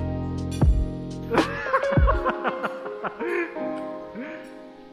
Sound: laughing

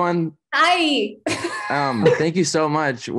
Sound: laughs

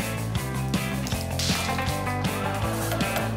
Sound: cracking

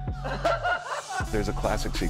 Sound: laughs

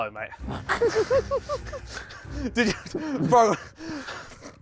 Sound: laughs

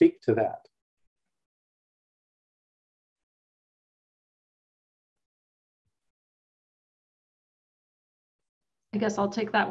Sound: silence

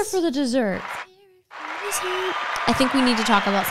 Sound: audience cheering

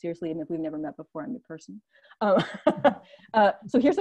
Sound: laughs

